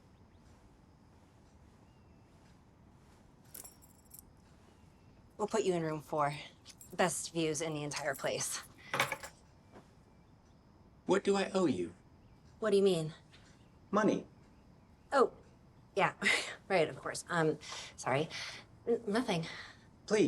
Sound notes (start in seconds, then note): 7.7 key clinks